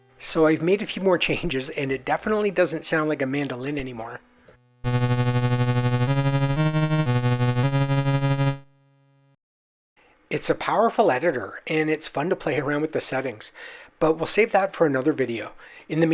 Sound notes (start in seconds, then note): 4.8 low, thrumming 8-bit sound effect